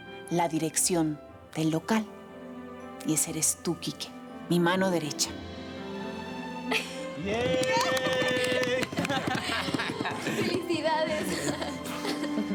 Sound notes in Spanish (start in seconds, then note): 7.2 Aplausos; 7.7 Exclamaciones